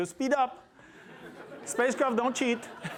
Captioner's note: laughter